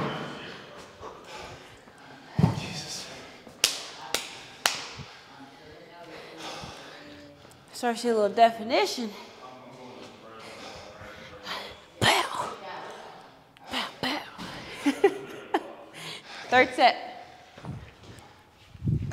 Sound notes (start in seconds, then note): 3.2 applause; 14.5 laugh